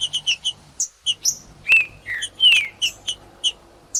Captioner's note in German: trinca ferro cantando